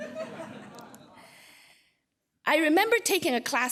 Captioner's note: laughter